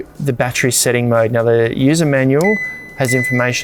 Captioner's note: fridge beeps